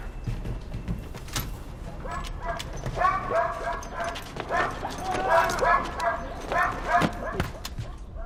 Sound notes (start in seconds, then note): 2.9 dog barking